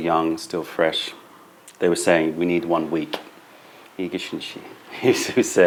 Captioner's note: laughter